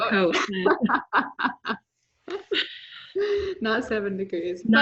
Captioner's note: chuckles